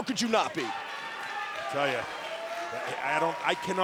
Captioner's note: crowd cheering